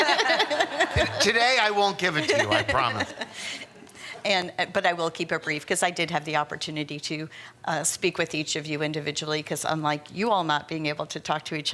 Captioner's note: laughter